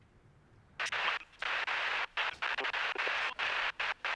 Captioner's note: radio staticing